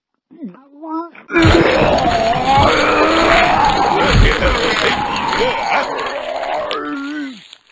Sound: retching

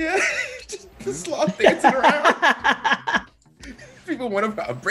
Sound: laugh

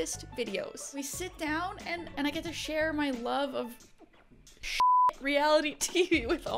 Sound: beeps

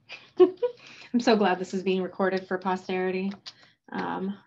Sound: chuckles

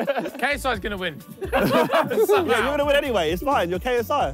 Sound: all laughing

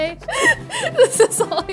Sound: laughs

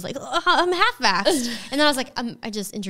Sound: groaning

